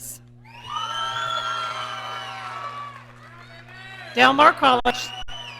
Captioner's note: audience cheering